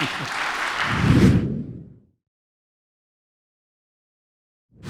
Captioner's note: audience clapping; air swooshing